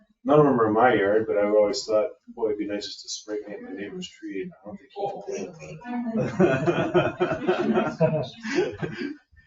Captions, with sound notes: None of 'em are in my yard, but I've always thought, Boy, it'd be nice just to spray paint my neighbor's tree and run home. (group laughs)